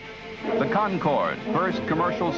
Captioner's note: radio voice